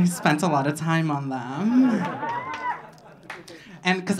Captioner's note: audience laughing